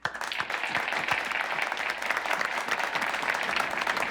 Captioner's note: people clapping